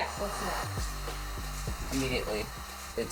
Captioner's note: heat gun humming